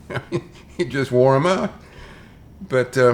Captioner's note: chuckles